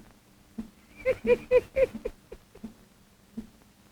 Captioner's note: laughs